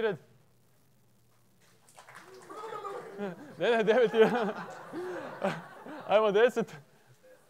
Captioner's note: belelele / clap clap